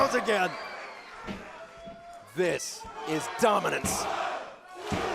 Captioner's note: crowd cheering